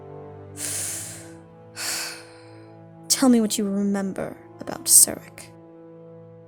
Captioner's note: sighs